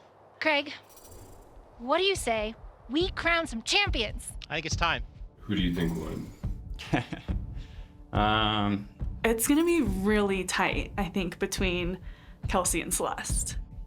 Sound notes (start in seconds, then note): 6.8 chuckling loudly